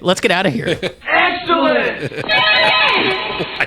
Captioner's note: voiceover